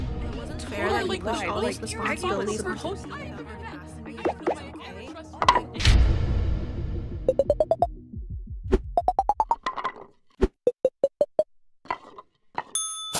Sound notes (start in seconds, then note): none